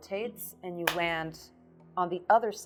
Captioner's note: claps